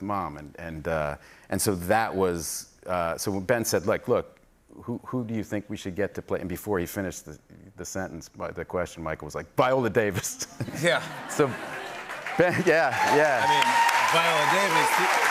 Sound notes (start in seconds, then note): 11.7 cheers and applause